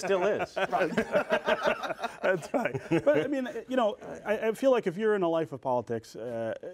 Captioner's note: laughter